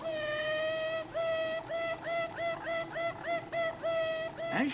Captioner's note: tooting